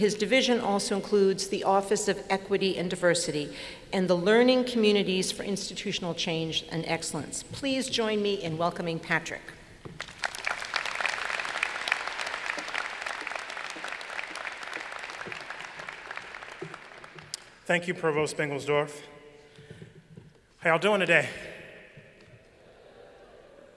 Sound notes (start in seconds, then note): 9.9 applause